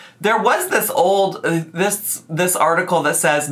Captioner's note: none